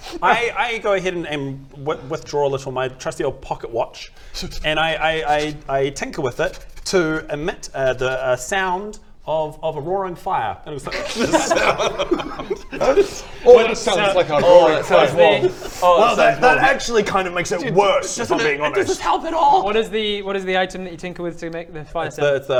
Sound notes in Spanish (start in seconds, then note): 11.1 Risa incrédula